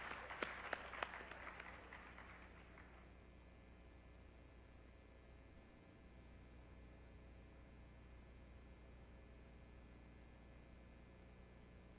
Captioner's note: applause